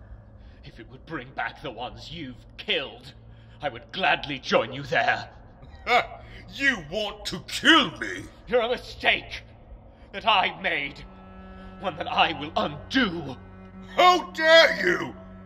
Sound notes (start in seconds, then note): 7.5 laughs